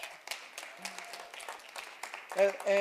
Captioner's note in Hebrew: תשואות